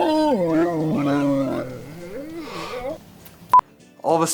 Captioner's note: host yawning; beeps